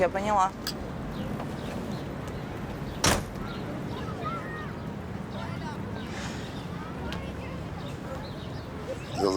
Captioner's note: street noises